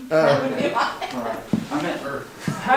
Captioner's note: laughing